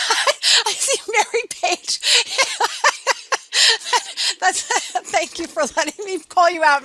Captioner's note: laughing